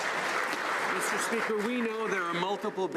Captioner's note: some Applause